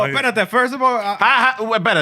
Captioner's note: speaking Spanish